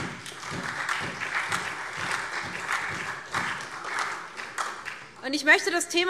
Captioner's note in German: Beifall SPD und DIE LINKE